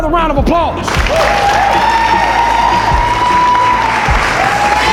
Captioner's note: spectators applauding